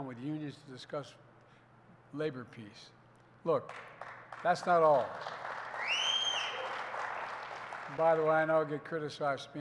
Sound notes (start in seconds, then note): 3.6 applause